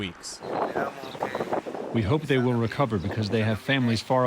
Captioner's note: through translator